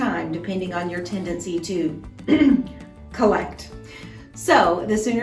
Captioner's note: ahem